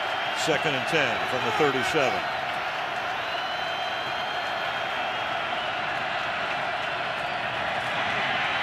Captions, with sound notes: Second and 10 from the 37. [crowd cheering]